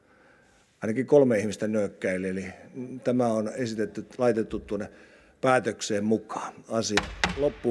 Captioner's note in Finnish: kopauttaa nuijaa